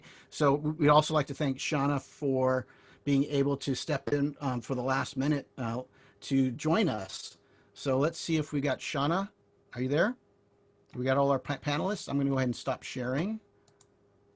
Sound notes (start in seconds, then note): none